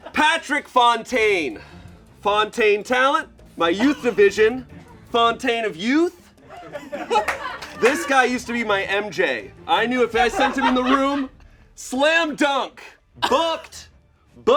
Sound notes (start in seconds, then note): 7.2 crew laugh and clap